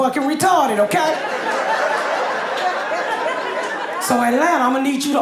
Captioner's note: audience laughing